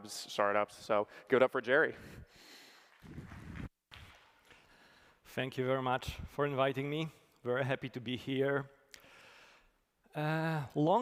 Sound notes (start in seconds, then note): 2.9 applause